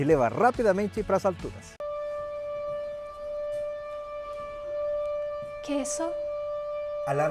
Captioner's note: alarm